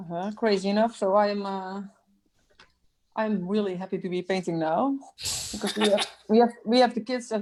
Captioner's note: laughs